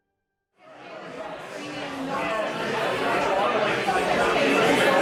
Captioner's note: crowd chattering